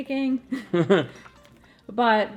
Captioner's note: chuckles